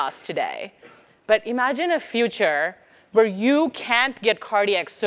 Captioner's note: cough